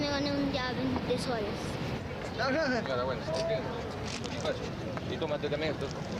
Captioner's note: men speaking native language